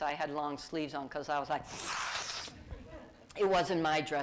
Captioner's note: sniffs